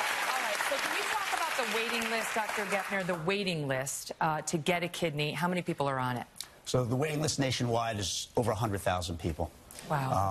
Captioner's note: applause